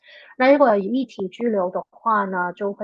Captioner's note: speaking chinese